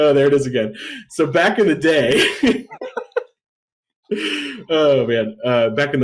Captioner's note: laughs